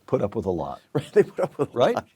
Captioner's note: laugh